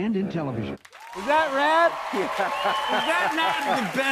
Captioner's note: laughing